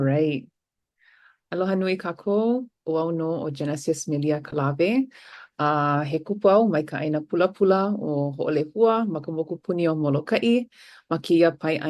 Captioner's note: foreign language